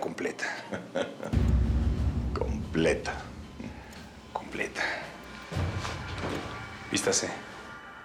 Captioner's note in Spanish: Risas